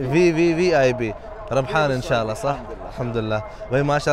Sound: Arabic

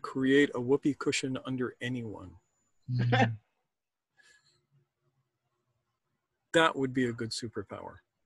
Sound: laughs

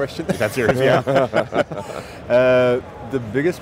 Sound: laughing

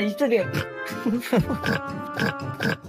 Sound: snoring

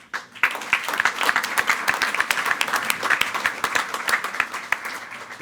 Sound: everyone applauding

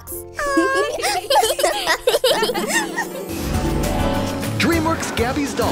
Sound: all giggling

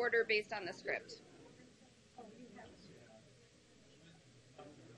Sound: talking in background

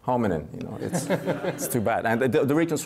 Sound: laughing

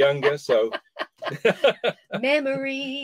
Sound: laughter

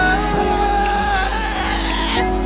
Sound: more screaming

